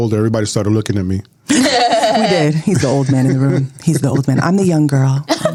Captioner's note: laughter